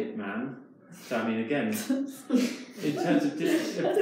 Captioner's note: participants laugh